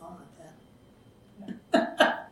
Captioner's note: laughs